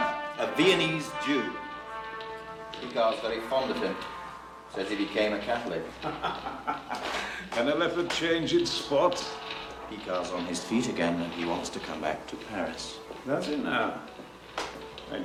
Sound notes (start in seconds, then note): 6.0 laughing